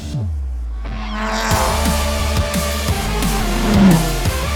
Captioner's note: engine buzzing